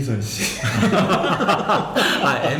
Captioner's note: laughing